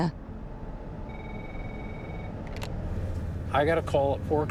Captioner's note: phone ringing